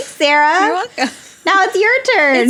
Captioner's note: both laugh